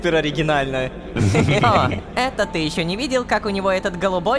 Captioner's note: laughter